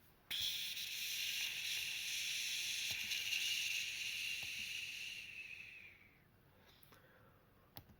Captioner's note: mustard gas sounds